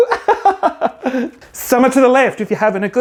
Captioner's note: laughing